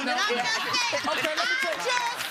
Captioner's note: applause